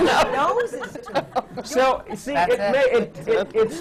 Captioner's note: laughter